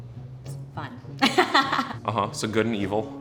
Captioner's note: laughs